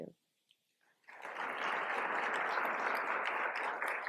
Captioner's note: applause